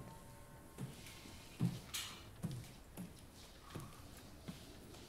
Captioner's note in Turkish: Ayak Sesleri